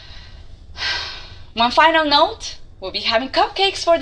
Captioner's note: sighs